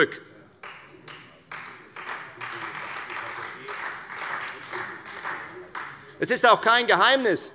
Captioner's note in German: Beifall Freie Demokraten